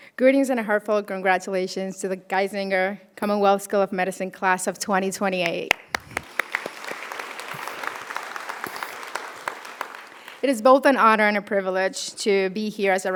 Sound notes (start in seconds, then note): 5.6 audience applauding